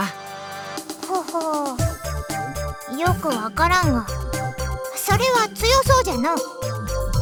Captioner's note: impressed chuckle